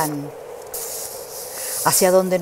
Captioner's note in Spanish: mueve hojas